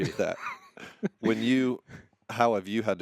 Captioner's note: laughing